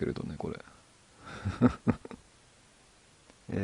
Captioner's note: laughs